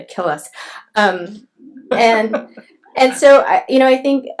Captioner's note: laughs